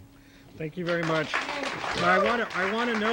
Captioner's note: audience cheering